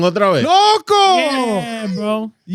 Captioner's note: speaking In Foreign Language